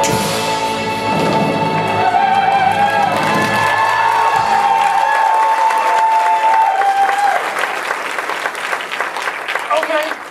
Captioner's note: audience applause and cheers